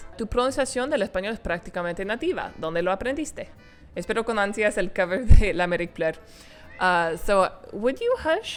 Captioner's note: speaking Spanish